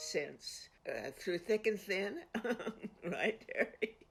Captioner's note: laughs